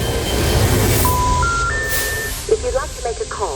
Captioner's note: dramatic music; dial tones chiming